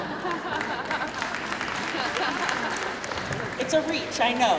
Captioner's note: crowd laughing; crowd clapping